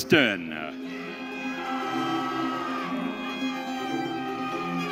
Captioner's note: audience cheering